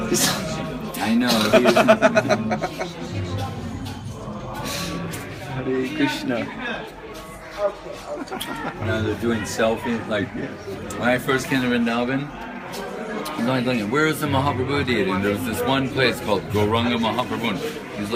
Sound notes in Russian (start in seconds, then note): 1.2 смеются